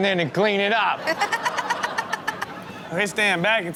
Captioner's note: all laugh